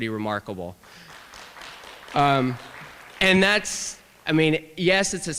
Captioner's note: applause